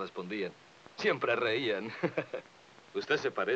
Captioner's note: laughs